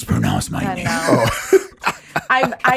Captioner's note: laughs